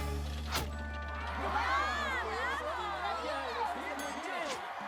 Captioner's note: cheers